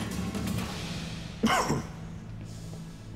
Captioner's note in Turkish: Öksürme sesi